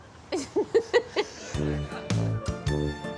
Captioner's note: laughs; upbeat music